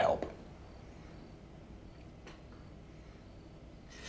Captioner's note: crickets chirping